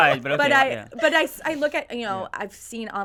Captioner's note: group laughs